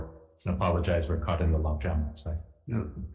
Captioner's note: speaking faintly